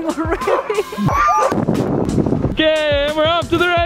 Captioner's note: laughing; snow crunching; dogs howling